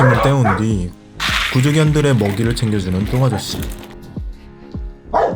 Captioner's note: clatter